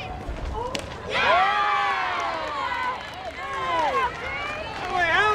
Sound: crowd cheering

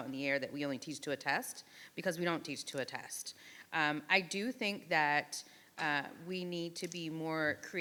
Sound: none

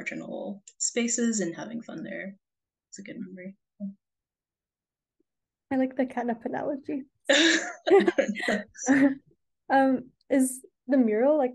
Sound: laughs

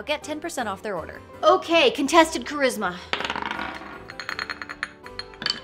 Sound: dice rolls; teacup rattles

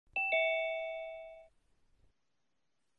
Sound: Zoom doorbell sound

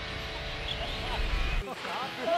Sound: laughter

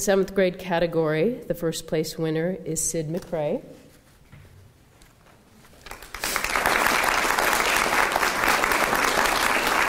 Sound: applause

